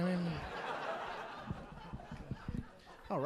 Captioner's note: audience laughing